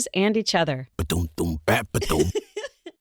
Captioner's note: happy giggle